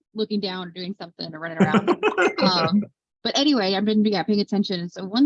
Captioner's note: laughter